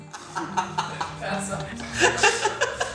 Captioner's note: laughing